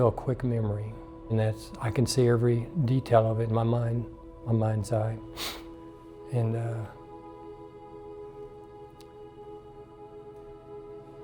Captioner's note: sniffing